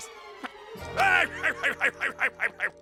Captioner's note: laughing